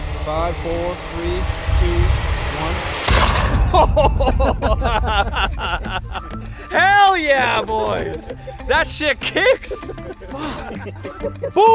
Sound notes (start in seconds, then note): 2.8 gun firing; 3.4 chuckling